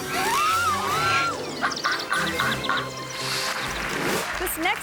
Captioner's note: swan honking; audience clapping